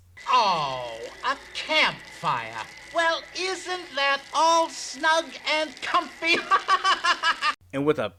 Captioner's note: laughs